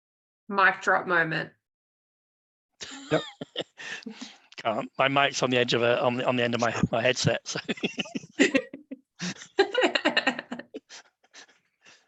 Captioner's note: laughs